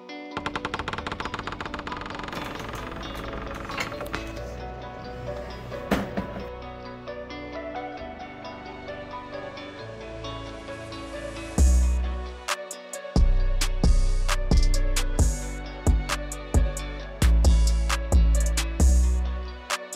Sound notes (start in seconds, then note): 0.3 door Creaks Close